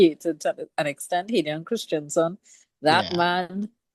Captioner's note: laughs